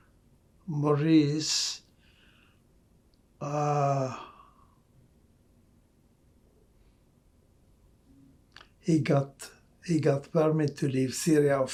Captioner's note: pauses 8 seconds